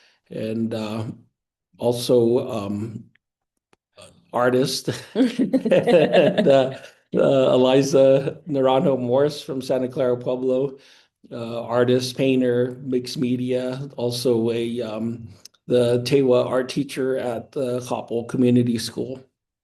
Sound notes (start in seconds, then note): 4.8 laughing